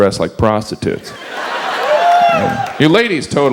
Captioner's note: audience laughs